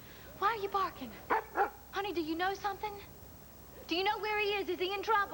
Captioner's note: valentine barks